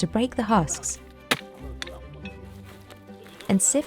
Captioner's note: ax thwacks